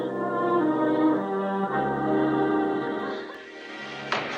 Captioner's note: sobs